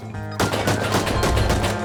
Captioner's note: turret firing outside